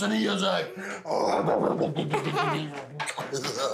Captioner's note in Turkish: Kıkırdamalar; Gülüşmeler